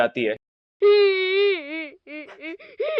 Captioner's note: crying